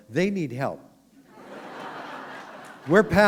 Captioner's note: laughter